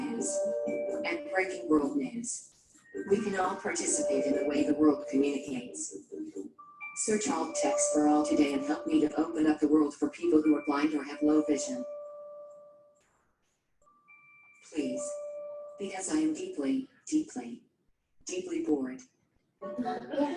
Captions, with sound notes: and breaking world news, we can all participate in the way the world communicates. Search AltTextForAll today and help me open up the world for people who are blind or have low vision (beeping). Please, because I am deeply, deeply, deeply bored.